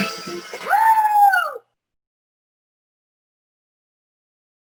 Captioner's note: screams